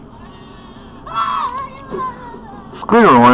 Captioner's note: wheezes, wailing